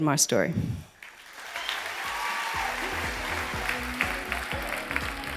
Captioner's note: audience applause